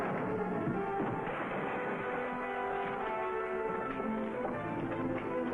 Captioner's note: objects rattling